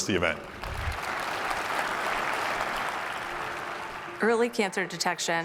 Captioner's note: applause